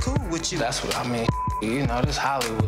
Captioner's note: beep